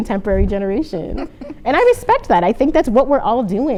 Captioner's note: laughter